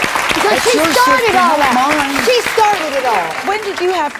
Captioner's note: audience cheers and applauds; yelling